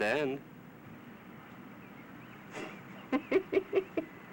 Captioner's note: chuckling